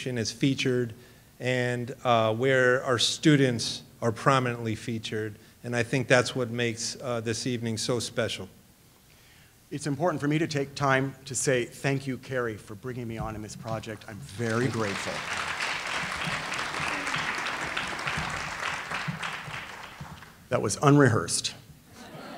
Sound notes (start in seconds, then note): 15.6 audience applauding